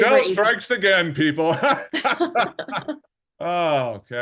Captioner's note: laughing